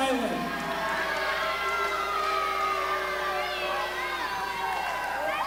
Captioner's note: crowd claps and yells